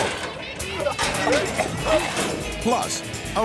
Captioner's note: person coughing